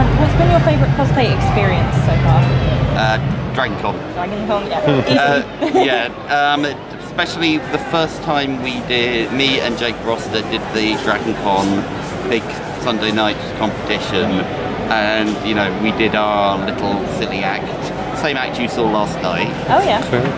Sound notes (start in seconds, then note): 4.8 laughs